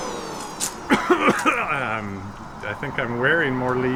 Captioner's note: coughing